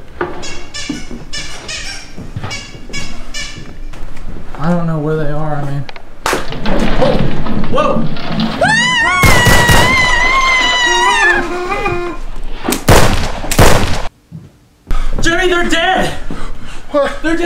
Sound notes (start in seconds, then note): 0.4 clown squeaking; 8.6 screams; 8.7 gun firing